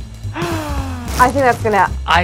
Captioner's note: gasping